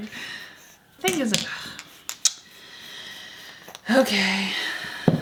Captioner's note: sighs